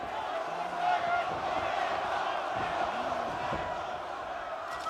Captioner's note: crowd chants "One more time"